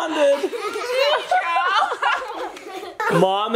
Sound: all laugh

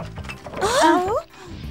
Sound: rattling

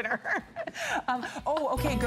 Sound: laughter

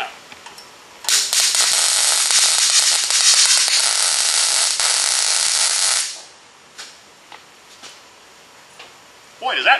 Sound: welding

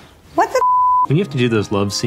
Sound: sensor beeps

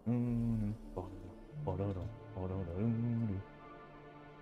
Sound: humming

